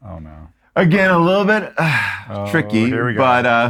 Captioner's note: sighs